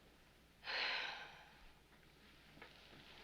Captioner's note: sighs